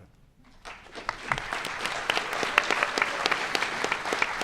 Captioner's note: audience applauding